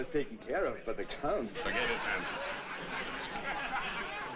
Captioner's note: chuckles; men Laugh, Chattering